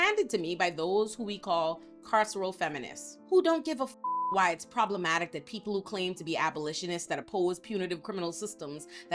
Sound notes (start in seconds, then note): 4.0 beep